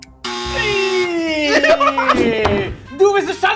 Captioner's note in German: Lachen